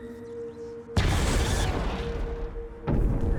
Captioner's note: electric zapping